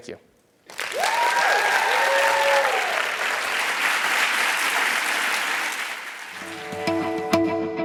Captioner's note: applause